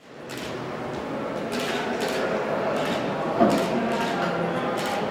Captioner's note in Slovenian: govor ljudi, klikanje fotoaparatov